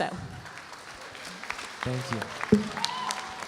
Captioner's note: audience applauding; audience cheering